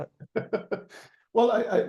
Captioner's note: laughing